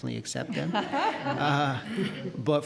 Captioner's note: audience laughing